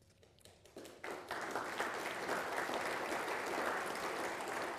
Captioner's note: people applauding